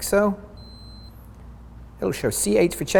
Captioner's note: meter beeps